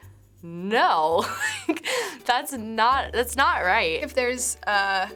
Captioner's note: laughs